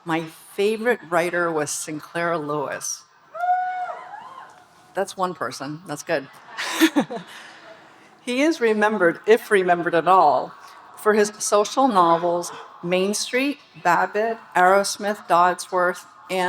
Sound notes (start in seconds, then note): 3.4 audience cheering; 6.4 speaker and audience laughing